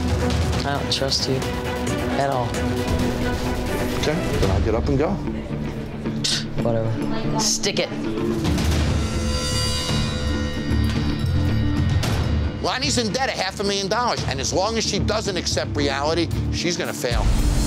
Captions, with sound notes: - I don't trust you at all. - Okay, then I'll get up and go. - (scoffs) Whatever, stick it. - Lonie's in debt a half a million dollars, and as long as she doesn't accept reality, she's gonna fail.